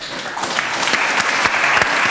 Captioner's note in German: Applaus